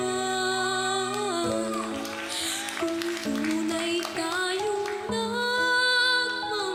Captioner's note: crowd cheers, applauds